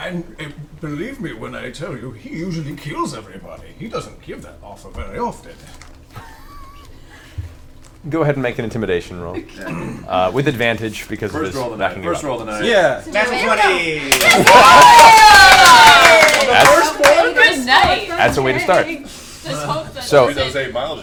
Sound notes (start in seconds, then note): 6.2 all laugh; 13.4 all laugh and cheer